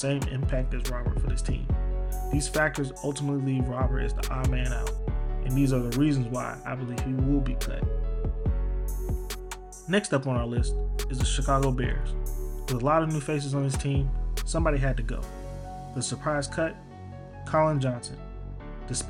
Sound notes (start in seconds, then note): 9.9 voiceover